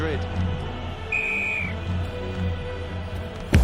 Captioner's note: meniupkan peluit